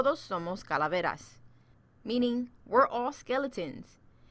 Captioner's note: speaking Spanish